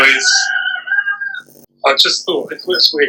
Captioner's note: cockerel crows